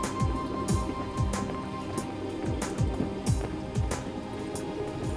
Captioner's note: liquid bubbling